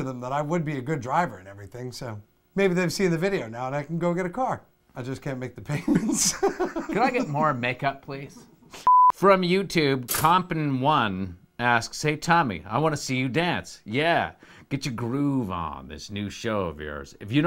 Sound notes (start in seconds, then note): 5.8 laughs; 8.8 test card beeps